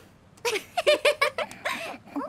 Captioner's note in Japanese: わらい声